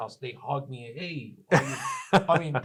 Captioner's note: laughs